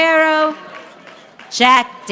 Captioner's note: audience applauding